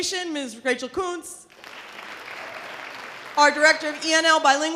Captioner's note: audience applause